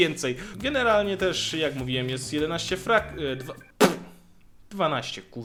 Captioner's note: spitting of shame